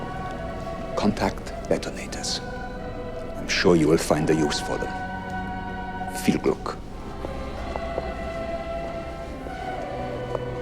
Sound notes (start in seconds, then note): 6.3 speaking foreign language